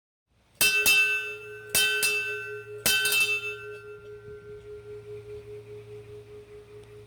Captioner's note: bell Rings